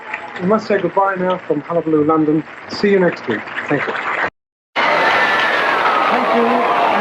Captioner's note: cheers and applause